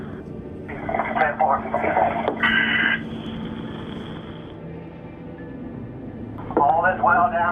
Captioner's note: underwater breathing